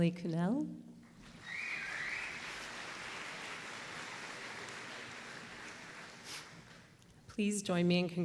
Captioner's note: applause